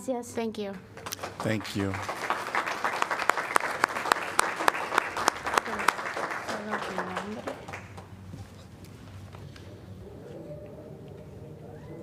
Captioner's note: applause